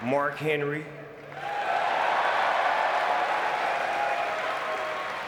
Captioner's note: audience cheering